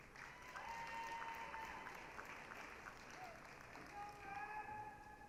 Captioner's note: applause, cheering